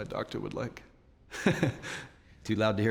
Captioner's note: chuckles